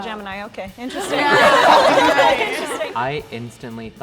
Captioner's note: crowd laughs